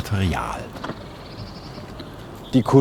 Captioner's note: birds chirping